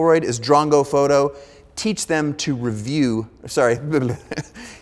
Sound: laughing

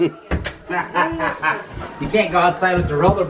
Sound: laughing

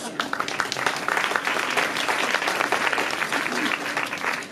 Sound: audience applauses

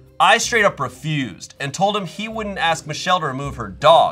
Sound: none

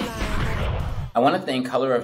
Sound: whooshes

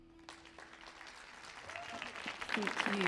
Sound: audience cheering

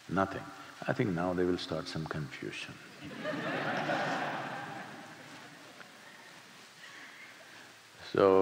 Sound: laughter

